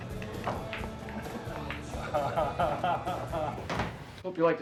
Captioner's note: chuckling